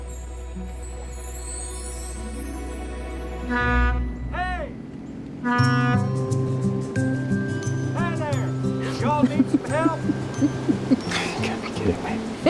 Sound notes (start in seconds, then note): 3.4 horn honks; 8.9 drucinda giggling